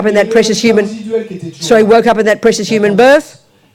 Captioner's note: speaking in French